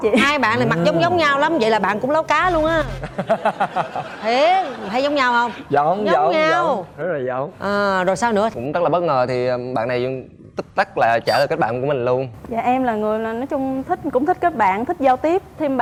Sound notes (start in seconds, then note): 2.4 laughing